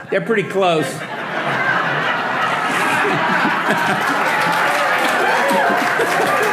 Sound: audience laughing and applauding

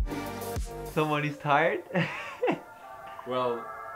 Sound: laughs

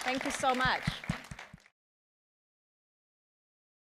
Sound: applause

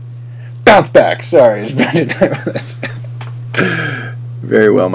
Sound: laughs

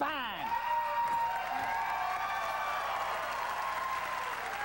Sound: cheers and applause

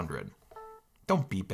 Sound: beeps

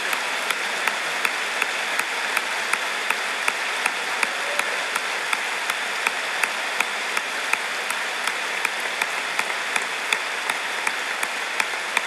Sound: applause

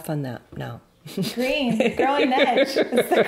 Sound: laughing

